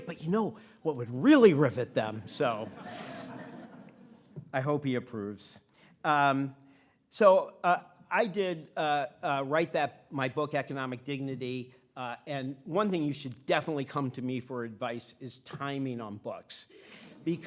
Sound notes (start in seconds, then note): 1.8 audience laughing